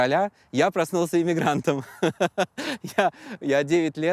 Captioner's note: laughs